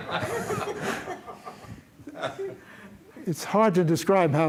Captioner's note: laughter